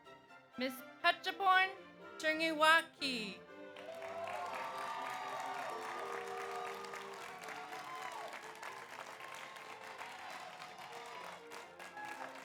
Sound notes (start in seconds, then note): 3.7 audience applauds; 3.8 audience cheers